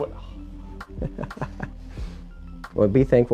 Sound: chuckles

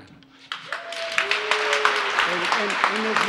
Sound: applause

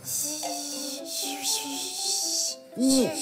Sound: adds sound of vibration

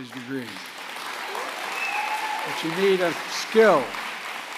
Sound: applause

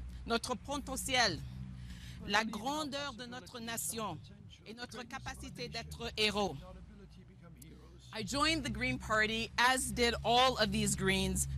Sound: speaking French

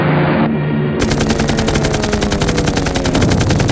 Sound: Rapid gunfire, Clay fighter flying; rolling explosions, rapid gunfire

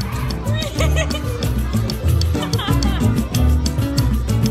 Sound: laughing

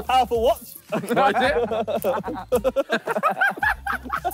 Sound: all laughing

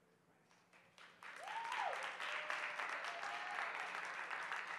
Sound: cheering

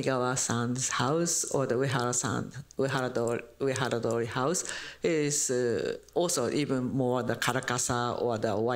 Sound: japanese

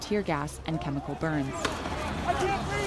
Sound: bang

